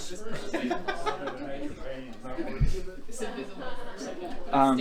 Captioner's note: laughs